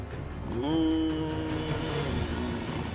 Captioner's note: moaning